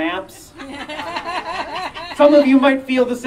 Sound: audience member laughing

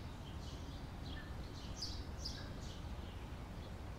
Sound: birds chirping

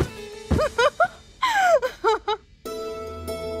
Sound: laughs

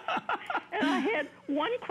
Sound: laughter

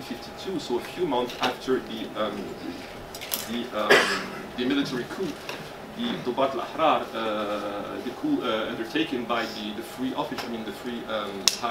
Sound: Arabic

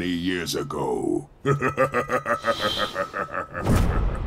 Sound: laughing

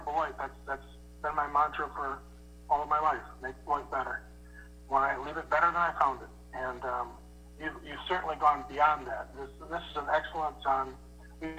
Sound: distortion

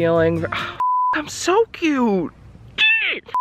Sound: beep; exclaims; screen beeps

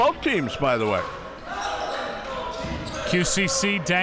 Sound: crowd cheering

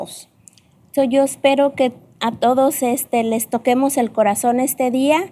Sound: speaking spanish

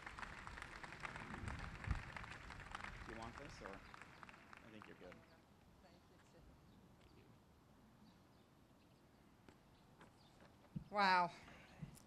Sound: applause

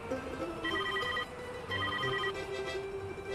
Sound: ringing

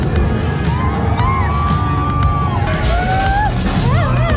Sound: screams

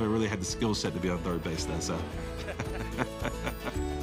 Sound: laughing

